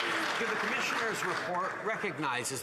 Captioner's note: applause